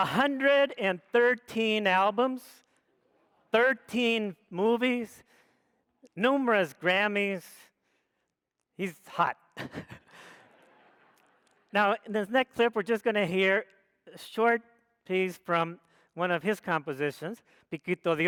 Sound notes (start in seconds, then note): 10.1 audience laughs; 18.0 speaks foreign language